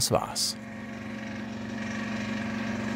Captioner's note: cream blower whirs